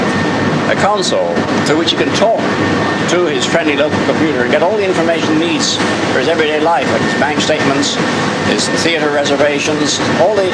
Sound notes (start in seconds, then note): none